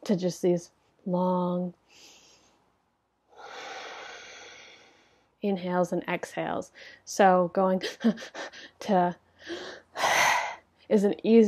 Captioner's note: sigh